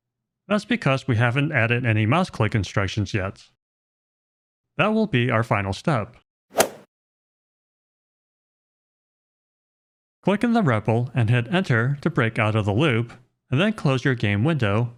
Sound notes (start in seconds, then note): 6.5 golf swing sound effect